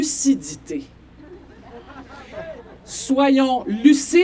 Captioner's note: laughs